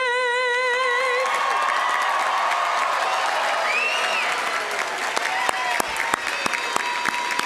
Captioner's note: audience cheering; audience applauding